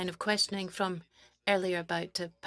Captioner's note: speaking French